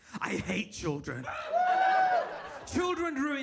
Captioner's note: audience laughs